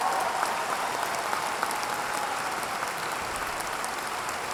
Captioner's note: audience applauding